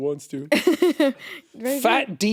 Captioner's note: chuckling